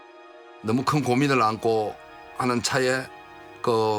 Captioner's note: speaking Korean